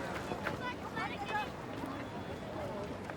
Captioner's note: indistinct chatter